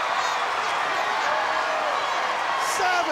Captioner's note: crowd cheering